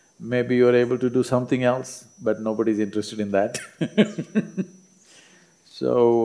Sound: laughs

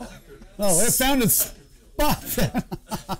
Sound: laughter

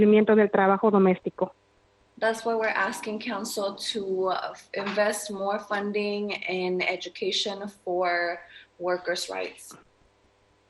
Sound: speaking spanish

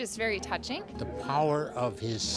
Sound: laughs

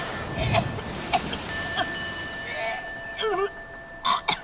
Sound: Amy retching and coughing

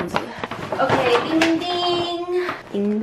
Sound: bing bing

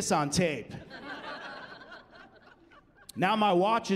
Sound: laughing

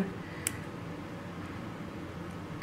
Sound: clipping sounds

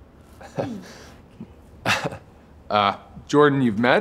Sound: Andrew laughs

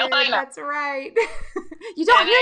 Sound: laughing

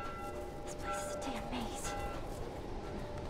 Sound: bell ringing

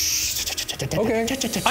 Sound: chattering

